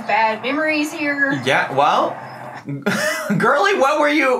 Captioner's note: laughs